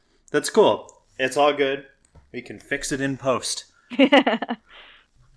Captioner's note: laughs